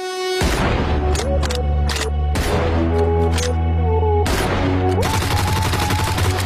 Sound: upbeat techno beat; guns cocking and firing

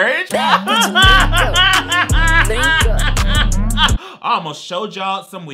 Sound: upbeat hip hop music; laughing

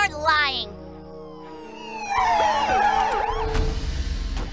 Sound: siren approaching

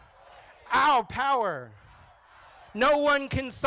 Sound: crowd

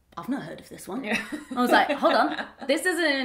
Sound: laughs

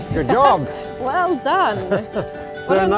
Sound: chuckles

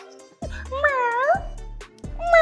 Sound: meowing cat sounds

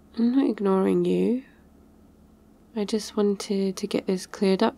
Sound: none

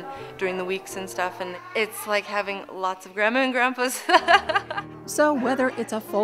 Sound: laughs

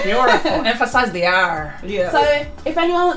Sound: laughs

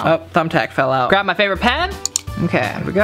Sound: pen clicks

